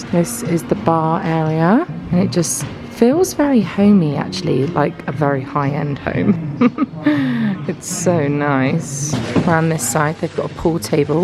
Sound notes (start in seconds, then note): 6.1 giggles